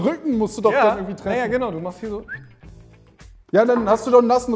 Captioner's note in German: Er pfeift